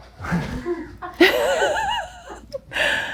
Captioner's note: laughing nervously